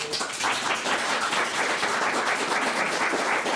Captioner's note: all claps